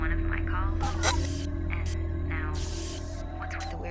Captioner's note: electricity crackling